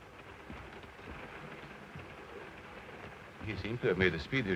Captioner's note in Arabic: صوت خشخشة القطار